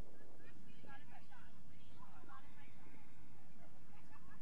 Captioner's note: crowd chattering